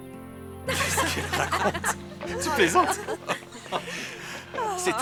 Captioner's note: laughing